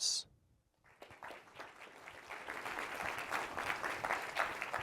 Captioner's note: audience applauds